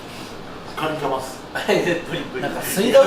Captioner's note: laughs